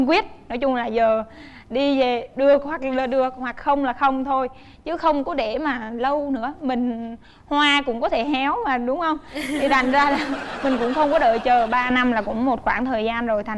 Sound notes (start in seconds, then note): 9.3 laughing